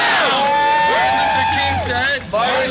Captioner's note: cheering